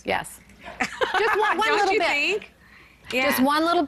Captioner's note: laughs